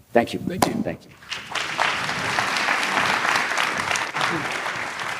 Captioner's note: applause